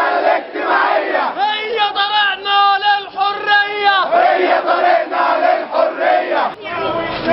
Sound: chants; chants

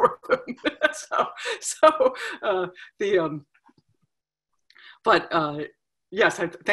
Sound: laughing; laughs

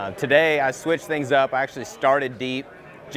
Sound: none

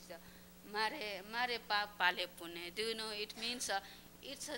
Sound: non-english speech

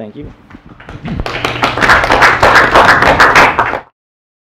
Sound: applause

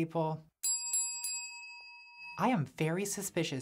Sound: bell dings

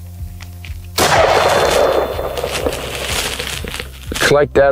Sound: gun shot

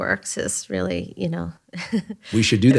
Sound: chuckles

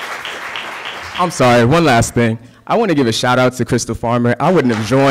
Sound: applause

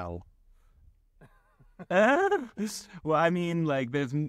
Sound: laughing

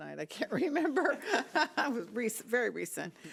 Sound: laughing

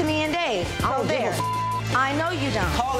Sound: beep

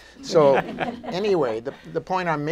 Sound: laughter

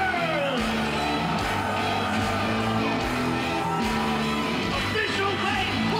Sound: audience cheering; hard rock music

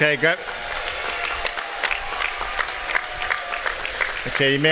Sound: applause

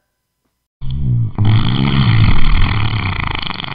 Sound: poot

